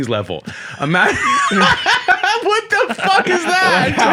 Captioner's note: laughter